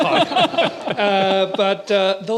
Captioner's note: laughter